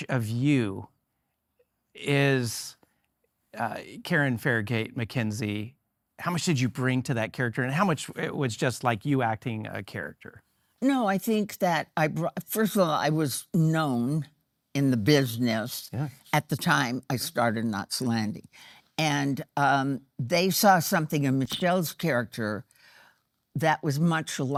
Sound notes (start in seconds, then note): none